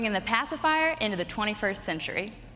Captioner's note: none